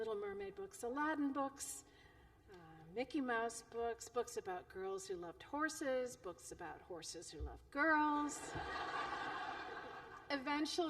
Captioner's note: laughter